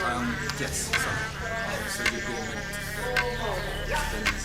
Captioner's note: people chattering